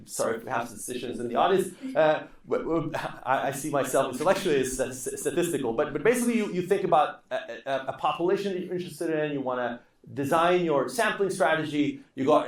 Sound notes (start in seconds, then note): 1.6 laughing